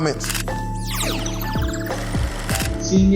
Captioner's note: camera shutters